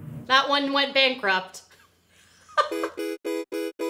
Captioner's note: laughs